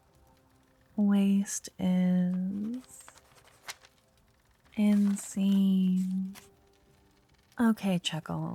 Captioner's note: writing noise